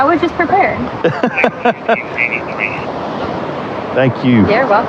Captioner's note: lauaughghing